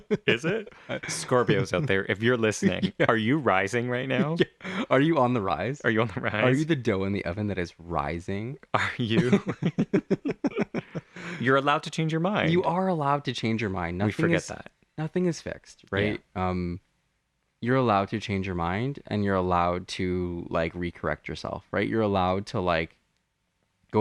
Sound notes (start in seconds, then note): 0.0 laugh; 4.4 laugh; 8.7 laugh